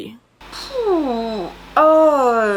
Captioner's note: sighs